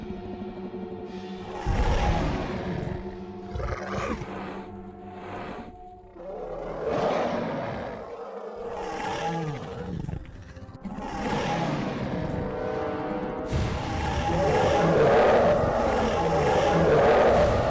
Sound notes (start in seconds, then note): 1.4 growling